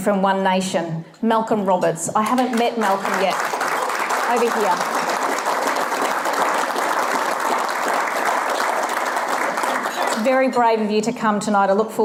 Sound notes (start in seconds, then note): 5.2 audience applause